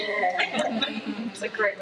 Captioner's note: attendees laughing